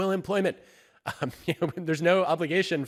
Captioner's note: chuckles